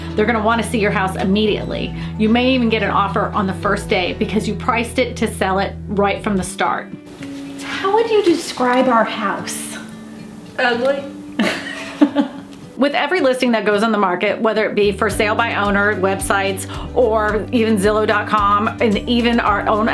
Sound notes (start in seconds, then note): 11.3 laughter